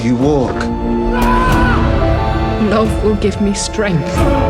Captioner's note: screaming